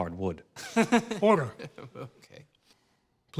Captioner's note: laughs